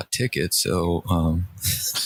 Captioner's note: laughter